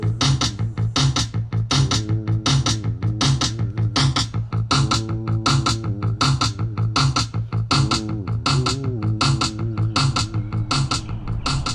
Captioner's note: percussive music; vocalizations fade; birds chirping